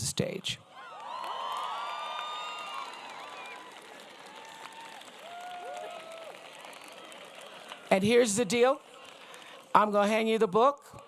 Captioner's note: applause